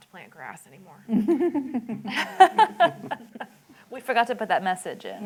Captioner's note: laughter